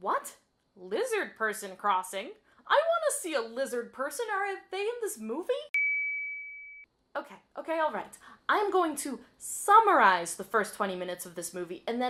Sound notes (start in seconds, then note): 5.7 ding